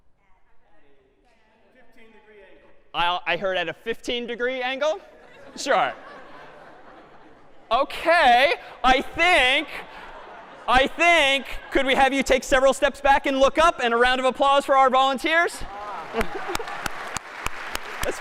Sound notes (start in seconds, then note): 5.1 laughter; 15.8 applause